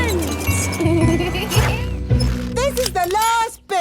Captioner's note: laughing